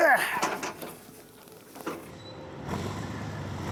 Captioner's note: groans